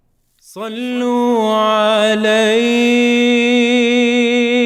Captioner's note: arabic recitation